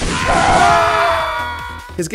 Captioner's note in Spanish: Gritando